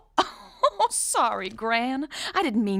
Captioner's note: laughing